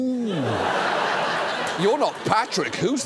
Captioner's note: studio audience laughs